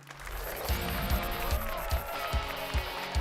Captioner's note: applause and cheers